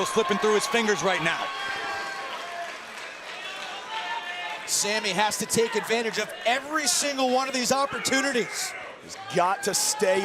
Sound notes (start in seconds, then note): 3.0 crowd cheering; 4.7 crowd chatter